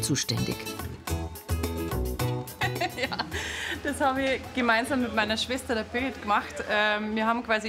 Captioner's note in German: lacht